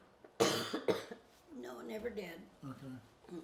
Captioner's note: coughs